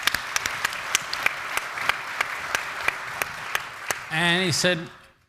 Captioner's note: audience applauds